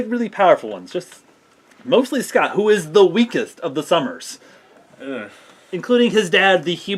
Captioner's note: groan